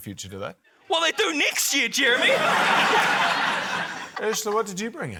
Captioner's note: laughter